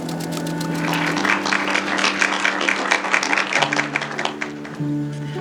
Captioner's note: audience clapping